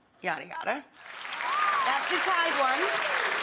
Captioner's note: crowd cheering and clapping